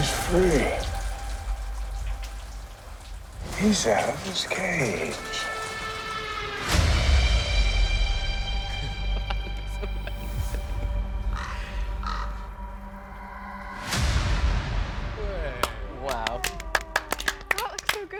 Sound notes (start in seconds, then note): 5.7 scary music; 11.0 crow cawing; 16.9 people clapping